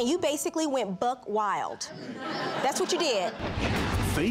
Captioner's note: audience laughs